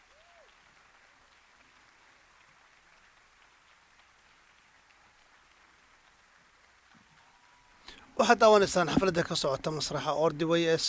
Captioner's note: cheers and applause